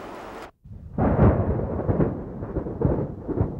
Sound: thundering

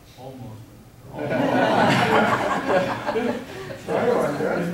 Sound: audience laughing

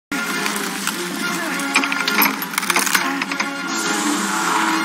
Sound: glass Cracking

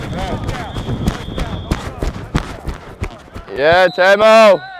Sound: chatter

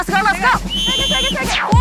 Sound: blowing whistle

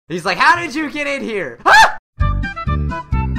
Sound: screams

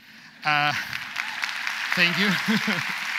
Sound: audience applauds

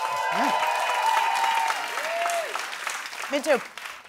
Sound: cheering

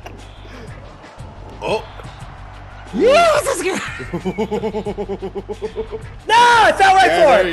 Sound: laugh

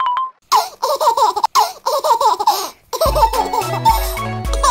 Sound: baby laughing

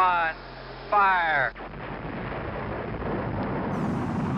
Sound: engine roaring

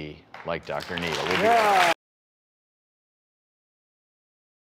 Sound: audience clapping

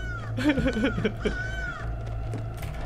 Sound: evil laugh

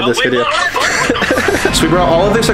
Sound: laughing

